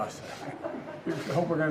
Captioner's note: laughter